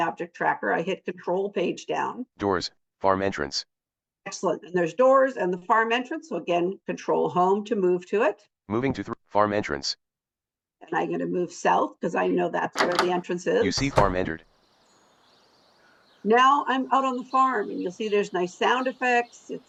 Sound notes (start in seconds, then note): 13.6 door opens; 14.2 birds chirping